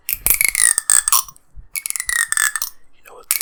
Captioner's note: comb teeth clinking